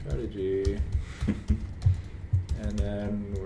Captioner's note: laughs